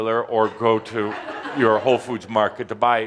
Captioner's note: laughter and applause